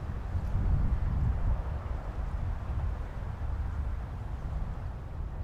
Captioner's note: wind howling continues